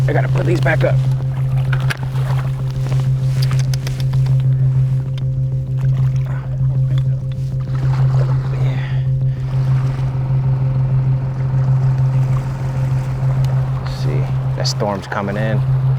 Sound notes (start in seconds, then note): 2.4 suspenseful music continues; 7.3 water splashes; 9.9 boat engine chugs